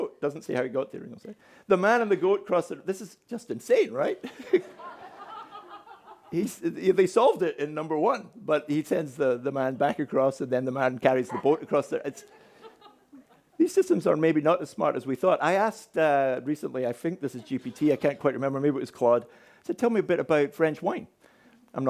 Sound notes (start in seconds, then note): 4.2 audience laughing